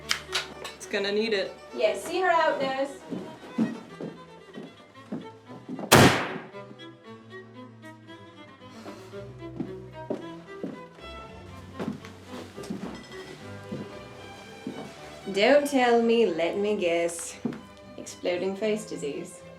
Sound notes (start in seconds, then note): 0.1 click; 5.9 gunshot